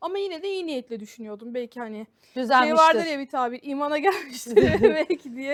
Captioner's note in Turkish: kahkaha